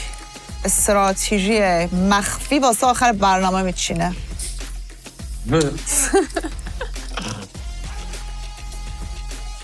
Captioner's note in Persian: خنده